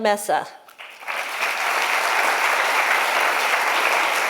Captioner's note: applause